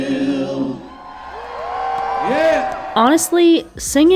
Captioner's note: crowd cheering